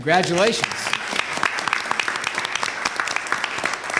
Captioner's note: applause